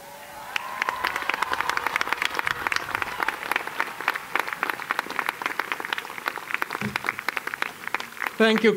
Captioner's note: cheering and Applause